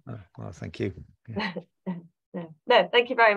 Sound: chuckles

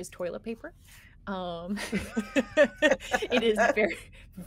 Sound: person laughing

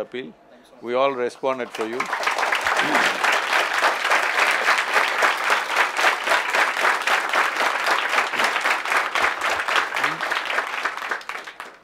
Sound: applause

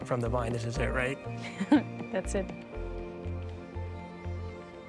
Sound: chuckles

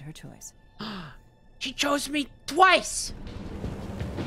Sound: gasps

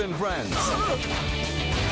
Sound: thomas groans; party blowers sound

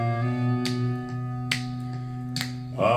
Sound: snap, snap, snap

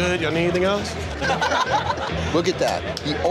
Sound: staff laughing

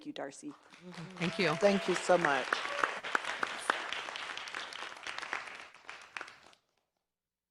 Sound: applause

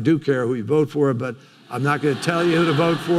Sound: audience laughing

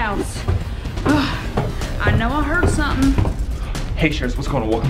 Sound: sigh

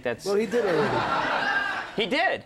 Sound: audience laughs

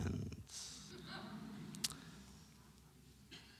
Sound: laughter

